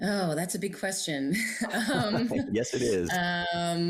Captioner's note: both laughing